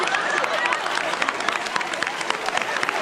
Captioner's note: cheers and applause